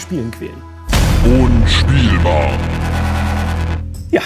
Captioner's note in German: Dröhnen